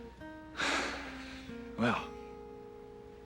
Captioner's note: sighs deeply